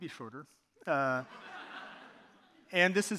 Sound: audience laughing

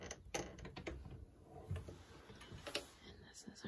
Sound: door shuts

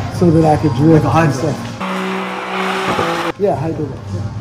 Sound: engine revving

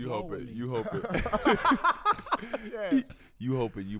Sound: all laugh

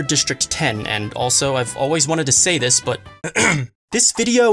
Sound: ahem

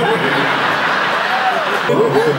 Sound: laughs

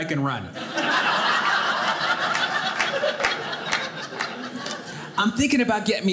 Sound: audience laughing

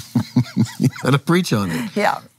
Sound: laughs

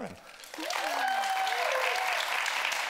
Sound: audience applauding

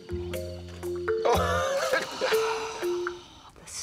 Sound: laughs

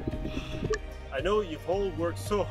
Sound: breathes out loudly

